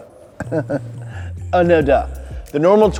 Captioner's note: laughs